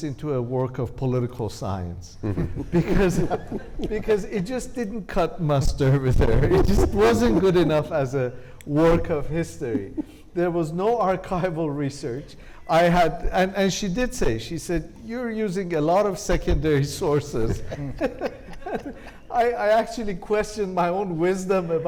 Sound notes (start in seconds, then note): 2.2 panelists laughing; 17.2 laughs